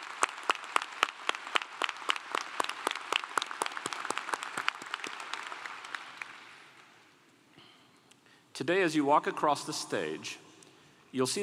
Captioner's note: applause